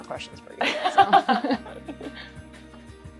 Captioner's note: laughter